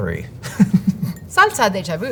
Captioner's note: chuckles